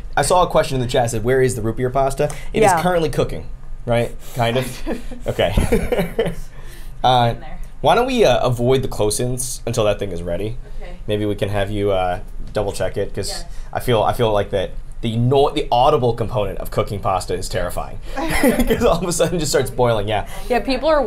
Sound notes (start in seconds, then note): 4.6 laughs; 18.2 laughs